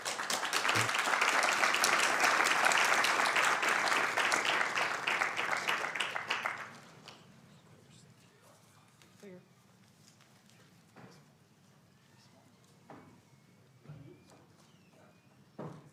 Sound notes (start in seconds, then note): 5.2 applauding